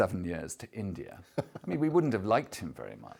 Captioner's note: laughs